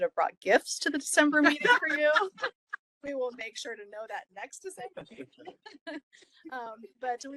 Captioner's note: laughing